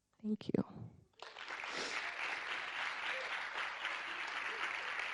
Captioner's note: audience clapping